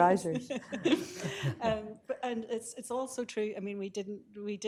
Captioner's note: laughing